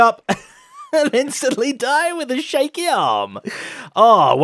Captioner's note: laughs